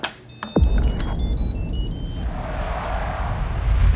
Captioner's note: beeping